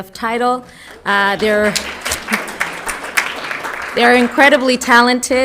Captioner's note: applauds